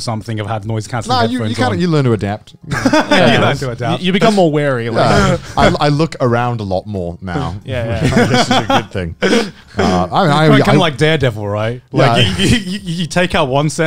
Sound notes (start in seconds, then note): 2.7 everyone laughs